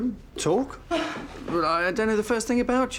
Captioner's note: scoffing